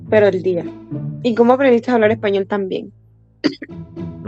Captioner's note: Spanish; Spanish